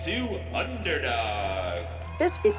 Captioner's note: applause